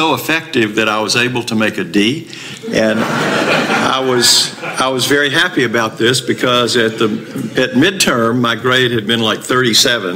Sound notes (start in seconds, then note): 2.6 audience laughter